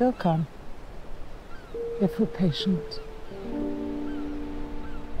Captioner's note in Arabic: موسيقى البيانو; نعيق النوارس